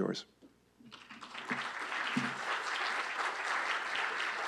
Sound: applause

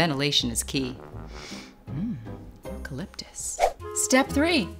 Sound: sniffs

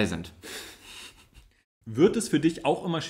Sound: laughs

